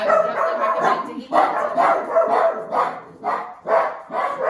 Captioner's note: dogs barking